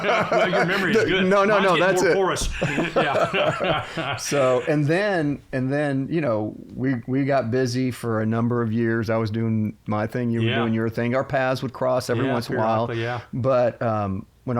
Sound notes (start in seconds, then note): 1.7 laughter